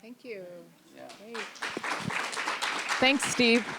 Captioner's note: applause